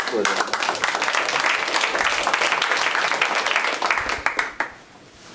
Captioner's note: applause